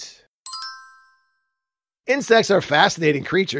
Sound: chimes

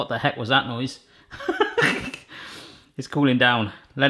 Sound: laughing

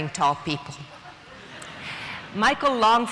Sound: audience laughing

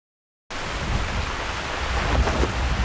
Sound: waves and wind

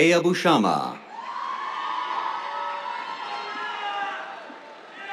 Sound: cheers, applause

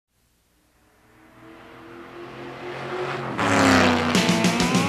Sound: car roaring; upbeat music

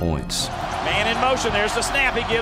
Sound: voiceover

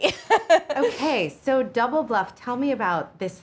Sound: Lana laughs

